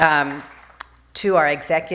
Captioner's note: applause